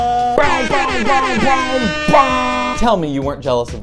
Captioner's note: air horn